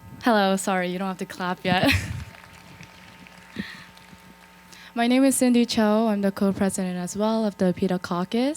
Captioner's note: applause